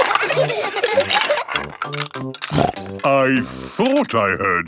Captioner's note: laughter; snorting